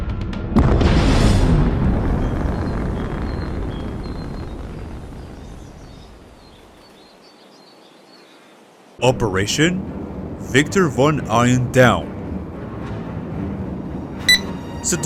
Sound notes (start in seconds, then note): 0.8 blasts off